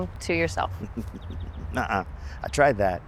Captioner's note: chuckles